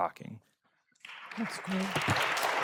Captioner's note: applause